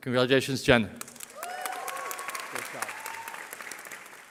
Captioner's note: cheering